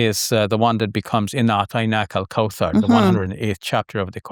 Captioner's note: speaking Arabic